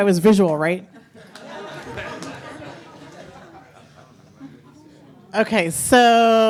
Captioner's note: audience laughing